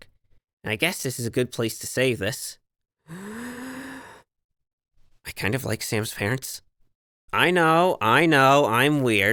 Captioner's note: deep breath